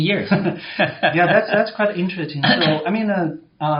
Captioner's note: laughs